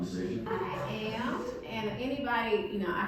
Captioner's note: audience laughing